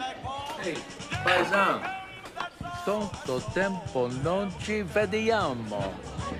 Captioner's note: speaking foreign language